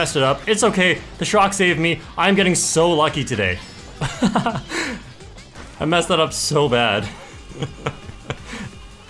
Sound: laughs

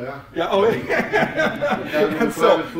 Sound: laughs

